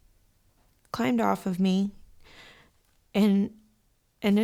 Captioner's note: exhales sharply